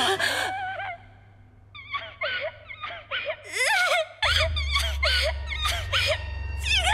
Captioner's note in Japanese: ラミエルの泣き声; ラミエルの泣き声